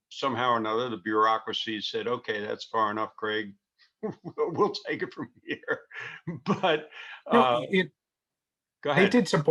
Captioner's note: laughing